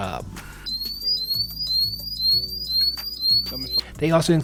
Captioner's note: siren wailing